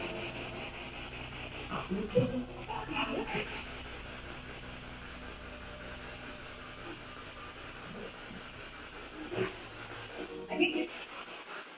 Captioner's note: radio noise from the spirit box and scary music